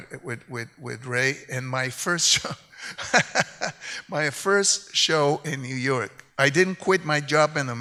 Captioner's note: laughs